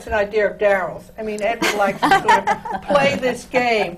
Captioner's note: laughs